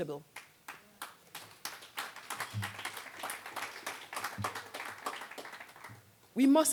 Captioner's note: applause